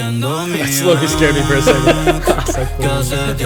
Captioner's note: laughter